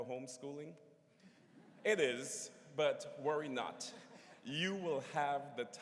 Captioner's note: laughter�